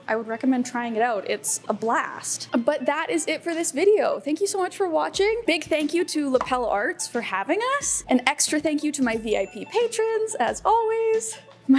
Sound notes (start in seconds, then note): none